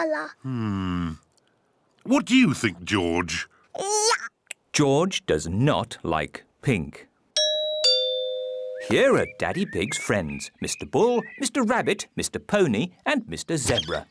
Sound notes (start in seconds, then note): 7.4 doorbell rings